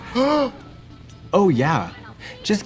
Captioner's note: Trixie gasps; Katya laughs